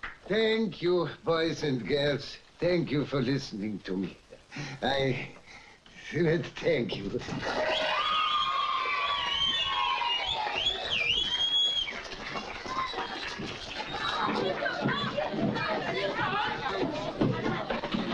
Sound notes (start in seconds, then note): 7.4 audience cheering; 13.6 audience chattering excitedly